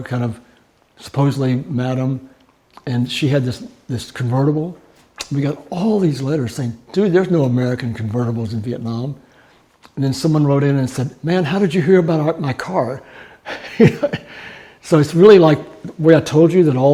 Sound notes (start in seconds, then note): 13.5 laughing